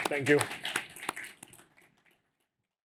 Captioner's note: applause